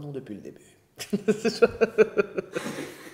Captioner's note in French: rires